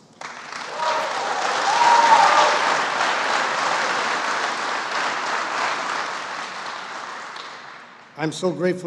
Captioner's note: applause